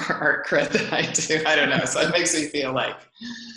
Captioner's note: laughs